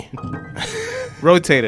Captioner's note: laughing